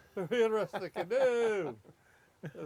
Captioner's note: laughs